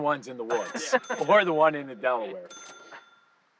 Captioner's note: laughing